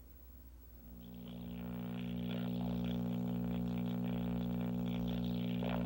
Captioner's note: static